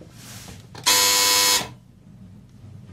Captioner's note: buzzer